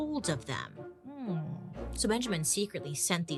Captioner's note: humming in thought